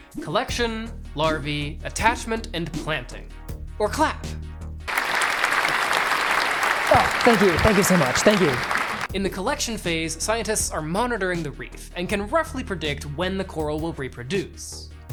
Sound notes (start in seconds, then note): 4.8 applause